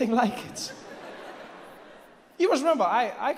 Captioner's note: audience laughs